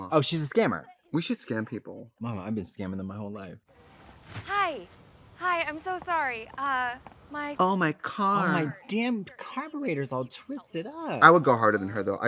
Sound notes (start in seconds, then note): none